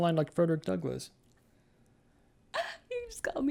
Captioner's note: laughs